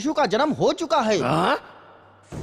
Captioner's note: gasps